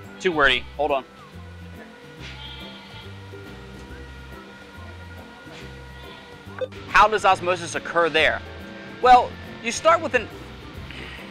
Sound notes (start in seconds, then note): 1.7 sheep baaing; 6.6 beep